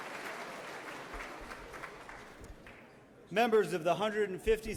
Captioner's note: everyone clapping